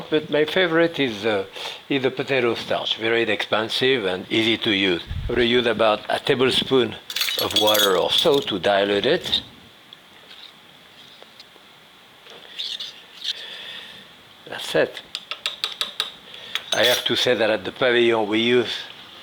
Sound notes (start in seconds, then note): 9.9 utensils clanging; 11.5 utensil scraping; 15.8 utensil tapping